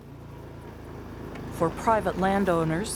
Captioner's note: ATV motor